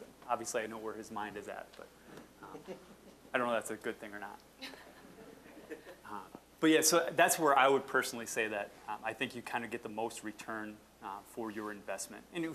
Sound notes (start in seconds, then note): 4.6 audience chuckling